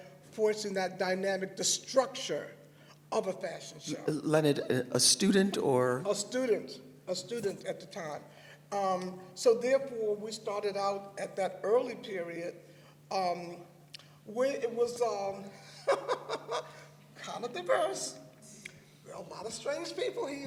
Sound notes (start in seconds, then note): 12.7 laughs; 15.6 laughter